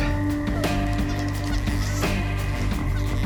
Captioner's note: squeaks